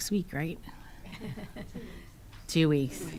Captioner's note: chuckling